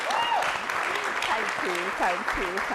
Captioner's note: applause